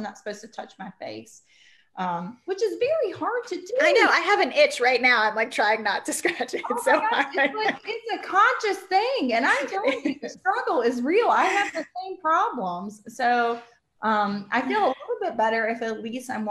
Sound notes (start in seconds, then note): 6.4 laughs